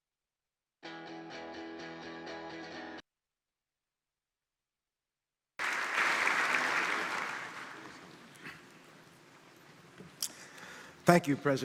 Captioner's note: applause